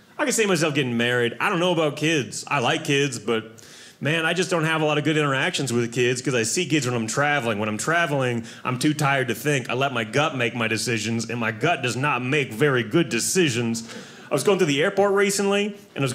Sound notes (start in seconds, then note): none